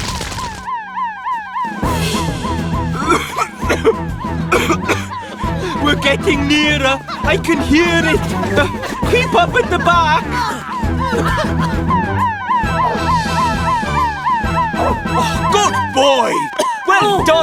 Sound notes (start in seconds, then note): 1.3 siren Wailing; 3.9 coughing; 10.6 all Coughing; 12.6 excited Bark